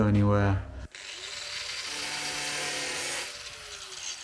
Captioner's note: grinder whirring